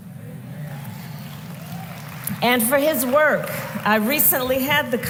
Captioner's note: applause